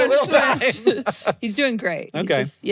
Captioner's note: both laugh